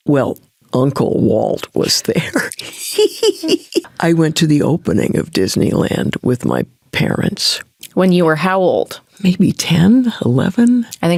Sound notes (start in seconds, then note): 2.1 Candice laughing